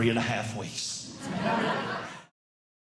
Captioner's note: audience Laughing